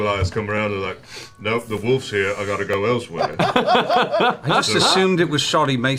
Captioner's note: sniff